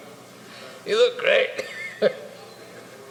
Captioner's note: sobs